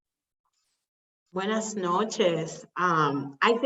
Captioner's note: speaking spanish